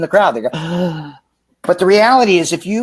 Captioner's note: gasps